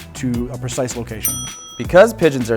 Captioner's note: ding